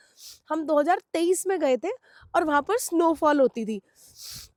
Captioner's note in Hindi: नाक से की जाने वाली आवाज़